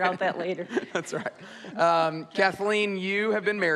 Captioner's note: laughs